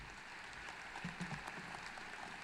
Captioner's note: applause